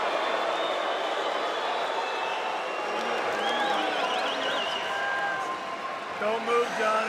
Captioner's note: crowd cheering